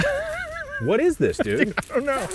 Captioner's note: laughing